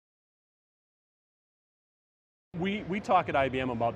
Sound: audio cuts out

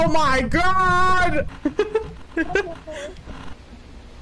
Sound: giggles

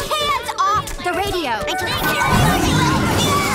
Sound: shouting; crash

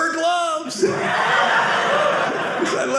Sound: audience laughing

